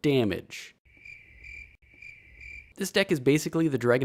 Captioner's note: crickets